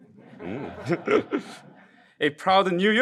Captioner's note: laughing